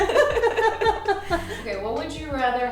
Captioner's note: both laughing